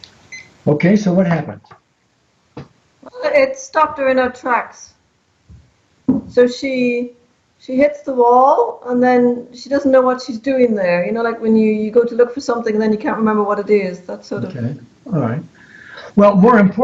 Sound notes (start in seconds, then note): 0.2 beeping